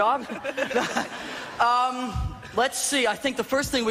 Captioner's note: laughing